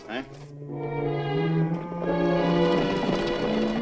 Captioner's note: horses galloping